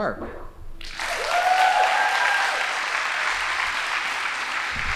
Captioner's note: audience applauding